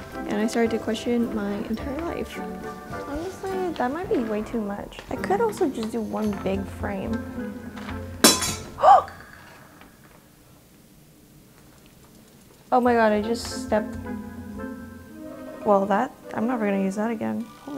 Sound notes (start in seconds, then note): 8.2 glass shattering; 8.3 gasping